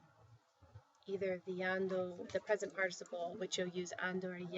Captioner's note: spanish